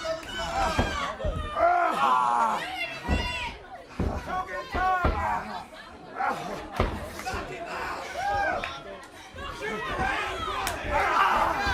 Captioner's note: crowd chatter